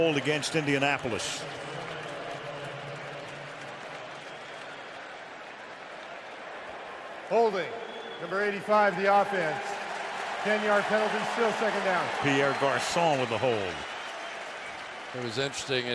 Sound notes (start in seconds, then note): 2.3 pa announcement; 10.2 cheering